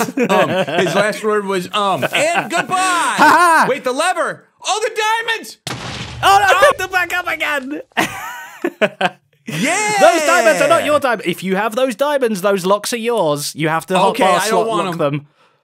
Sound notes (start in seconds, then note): 7.9 laughs